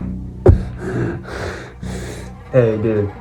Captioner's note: struggled breathing